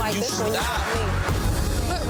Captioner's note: overlapping chatter